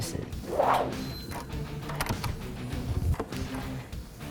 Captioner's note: sound of door opening